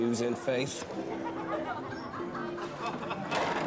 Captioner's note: laughter